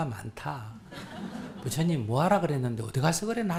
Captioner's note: audience Laughter